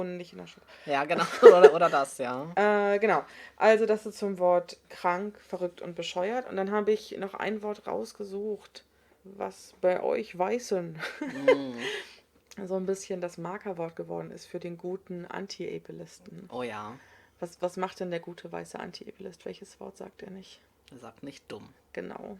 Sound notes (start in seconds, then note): 1.1 laughs; 11.1 laughs